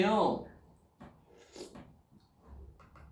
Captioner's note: slurp